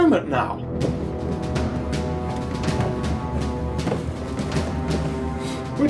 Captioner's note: marching footsteps